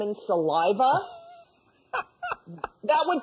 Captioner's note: laughs